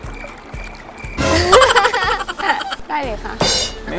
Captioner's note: laughing